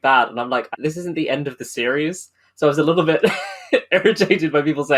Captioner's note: laughing